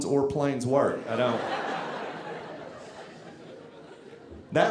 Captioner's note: audience laughing